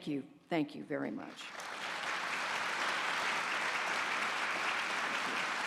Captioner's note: applause